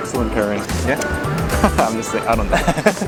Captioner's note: laughs